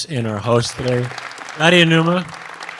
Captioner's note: audience applauds